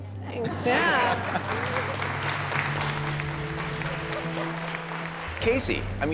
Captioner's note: applause